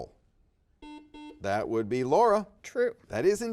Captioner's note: buzzer dings